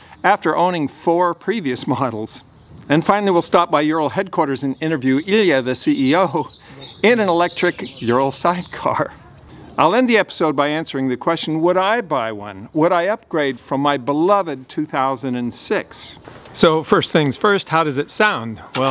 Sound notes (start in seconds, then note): none